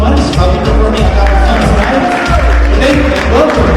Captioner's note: audience cheering and applauding